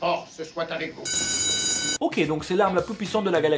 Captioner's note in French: bruit de sonnerie